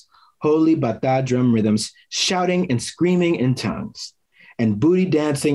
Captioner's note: foreign language; foreign language